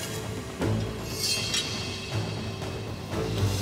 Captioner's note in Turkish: Kılıç sesi